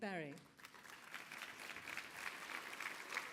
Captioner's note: applause